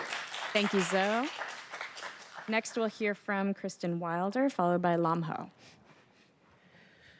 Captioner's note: applause